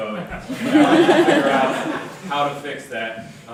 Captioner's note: audience laughing